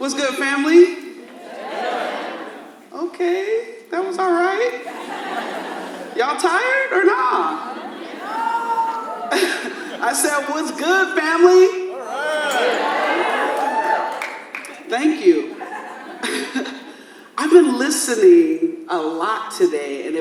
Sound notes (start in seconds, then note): 4.8 audience laughs; 7.8 audience laughs; 13.3 audience cheers; 16.4 laughs